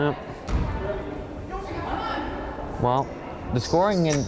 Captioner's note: crowd chattering